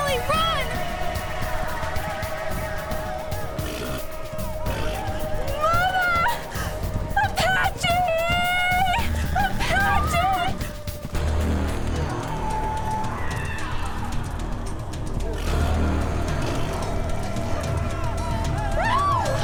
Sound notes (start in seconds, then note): 2.5 dramatic music; 3.5 horse blusters; 11.7 dramatic music